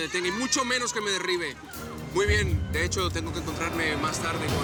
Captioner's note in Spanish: Hablan al unísono